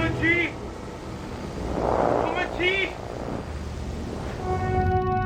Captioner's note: speaking in foreign language